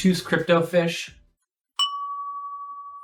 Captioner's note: ding!